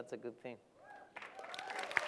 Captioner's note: cheering; applause